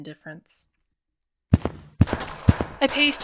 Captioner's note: Loud steps on wood and muffled sounds of battle and Tossier banter